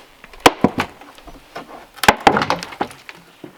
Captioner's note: cracking